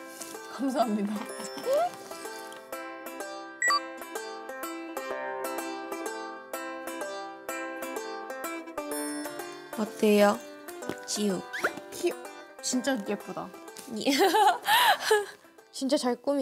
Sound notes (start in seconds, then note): 14.1 proud laughter